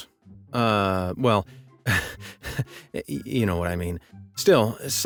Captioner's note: panting